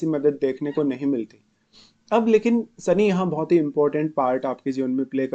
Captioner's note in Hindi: नाक से की जाने वाली आवाज़